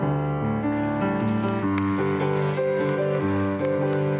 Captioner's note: applause